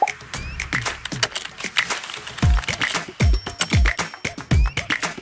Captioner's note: icon popping; keyboard typing